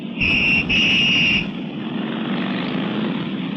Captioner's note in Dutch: fluitje blazen; motoren ronken